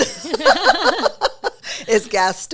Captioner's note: both laughing